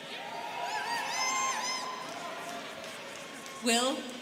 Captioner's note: students cheering